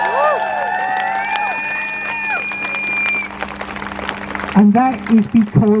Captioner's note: crowd Cheers